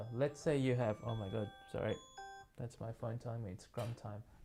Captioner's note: phone rings